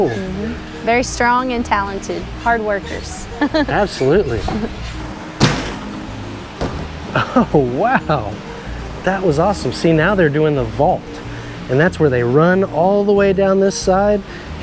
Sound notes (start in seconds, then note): 3.0 laughs; 5.3 feet thud; 7.1 chuckles